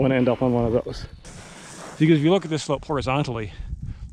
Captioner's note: air whooshing